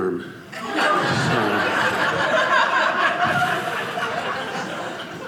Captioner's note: audience laughing